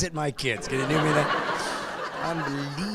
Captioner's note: laughing